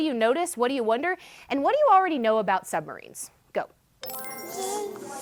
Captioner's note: chime